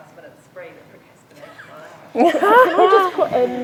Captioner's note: group laughing